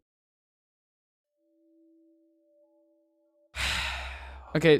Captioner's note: sighs